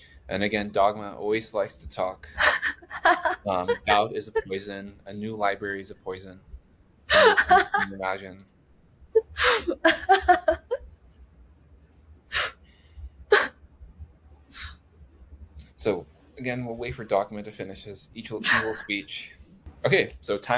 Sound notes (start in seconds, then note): 2.3 laughs; 10.6 laughs